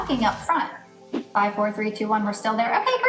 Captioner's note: air whooshes